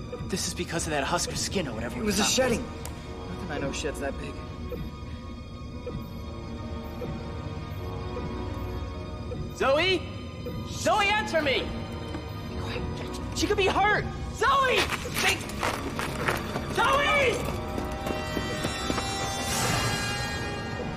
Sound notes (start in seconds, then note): 4.5 blipping; 12.4 whispering; 17.7 scary music intensifies